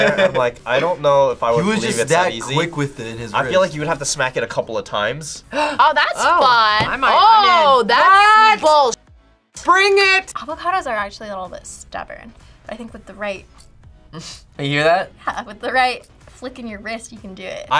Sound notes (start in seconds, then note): 5.5 gasps